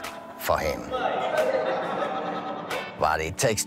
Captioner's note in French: rires